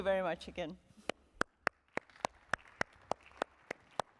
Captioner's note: applause